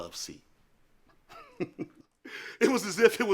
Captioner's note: chuckles